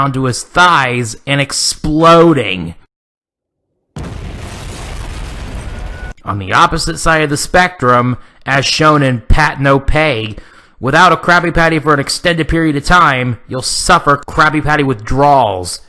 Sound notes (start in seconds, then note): 3.9 Squidward explodes